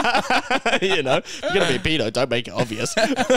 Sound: laughing

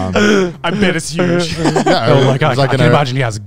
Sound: laughs

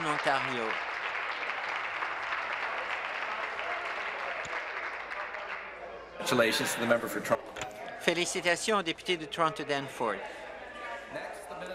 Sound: applause

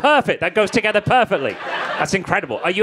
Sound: crowd laughing

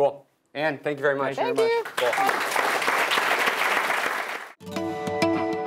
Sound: applause

